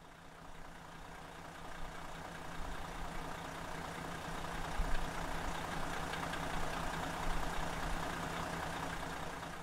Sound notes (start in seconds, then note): 0.9 car engine humming